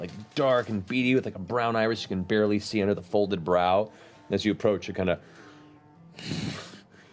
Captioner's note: snorts